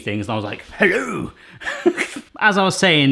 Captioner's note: laughing